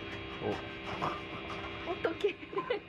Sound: laughs

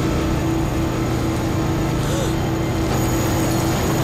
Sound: gasping

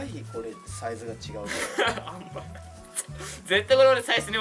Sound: laughs

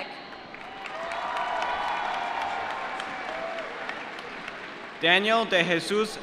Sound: applause

